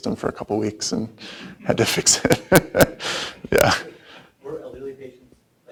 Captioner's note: laughs